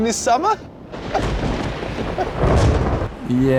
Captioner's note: thunder; weeps